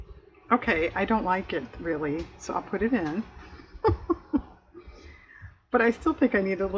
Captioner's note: laughs